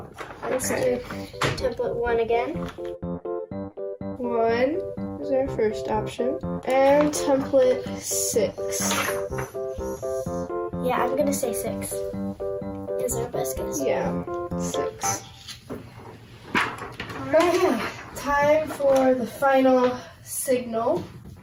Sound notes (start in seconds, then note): 2.5 bouncy upbeat music; 8.8 bouncy upbeat music; 12.1 bouncy upbeat music; 15.4 papers rustling